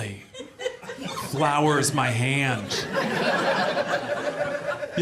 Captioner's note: audience laughs